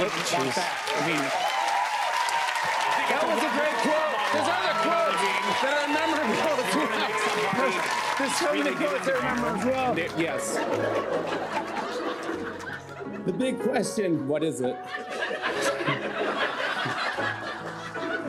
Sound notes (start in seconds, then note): 10.4 laughter; 14.8 laughter